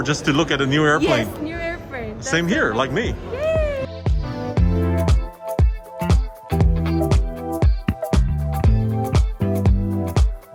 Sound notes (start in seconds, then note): 3.2 lady cheers; 3.5 upbeat music